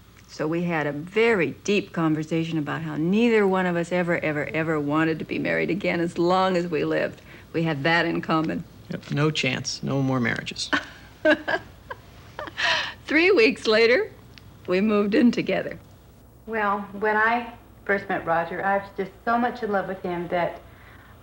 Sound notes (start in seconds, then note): 10.7 laughs